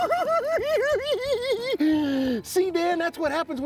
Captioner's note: cackling